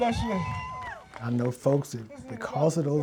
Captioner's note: audience cheers